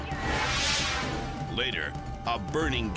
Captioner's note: air whoosh